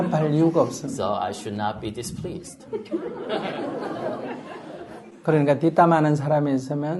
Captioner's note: audience laughter